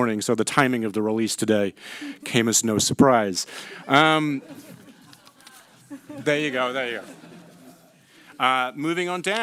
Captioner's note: laughter